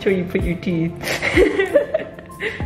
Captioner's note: laughs